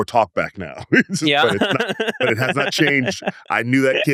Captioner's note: laughs